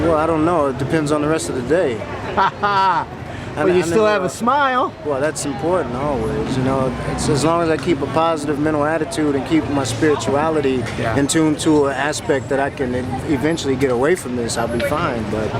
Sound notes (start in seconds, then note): 2.3 laughs